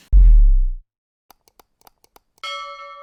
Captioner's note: upbeat music; mouse clicks; bell rings